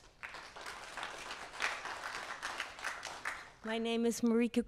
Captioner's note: audience applauds